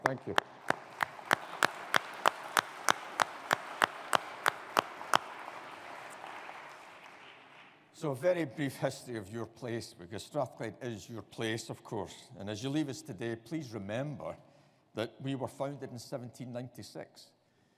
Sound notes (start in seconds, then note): 0.0 audience applauding